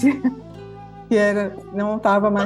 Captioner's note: laughter